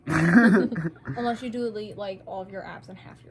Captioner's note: chuckling